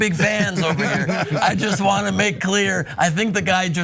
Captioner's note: laugh